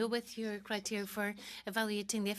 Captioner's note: speaking French